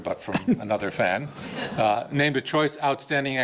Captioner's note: audience laughing